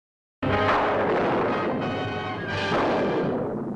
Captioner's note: thunderclap